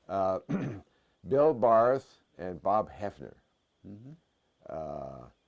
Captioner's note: cough